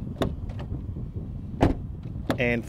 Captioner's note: door slamming